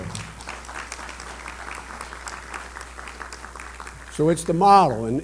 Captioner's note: applause